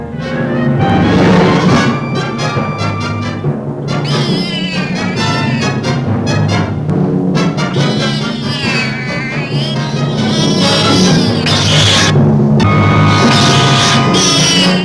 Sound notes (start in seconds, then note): 0.3 scary music; 4.0 cat yowling